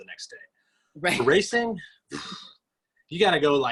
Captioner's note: exhales